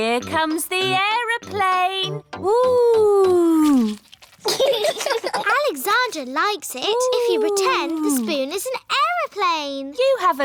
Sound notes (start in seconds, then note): 4.4 laughter